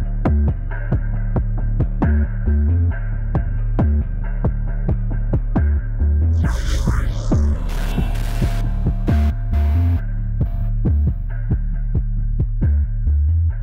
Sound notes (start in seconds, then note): 6.4 static crackles; 10.1 tense music